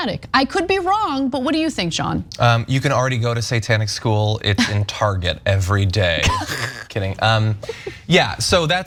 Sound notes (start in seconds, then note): 6.2 laugh